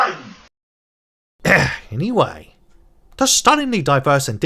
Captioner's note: ahem